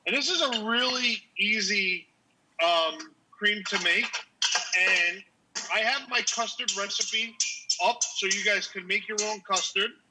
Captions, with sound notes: and this is a really easy cream to make. And I have (whisk banging) my custard recipe up, so you guys can make your own custard,